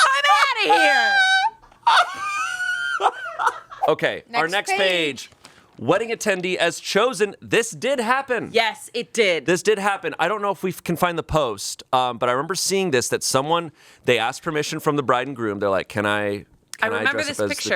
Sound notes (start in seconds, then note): 0.0 laughing; 1.8 continues laughing